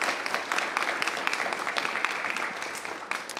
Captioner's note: applause